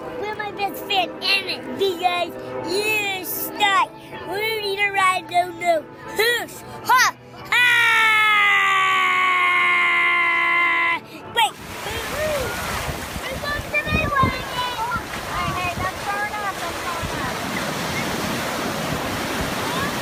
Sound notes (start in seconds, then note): 11.4 waves crashing; 11.8 kids yelling